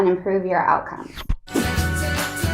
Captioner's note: upbeat music; zipping